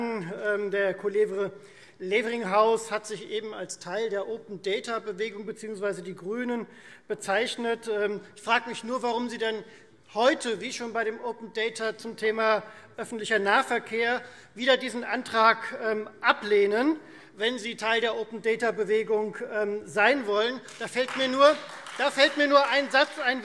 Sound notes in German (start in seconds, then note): 20.4 Beifall Freie Demokraten